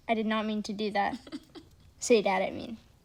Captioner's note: giggling